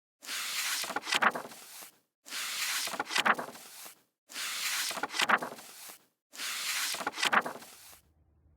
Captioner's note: pages turning